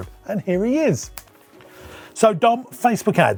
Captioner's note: finger snapping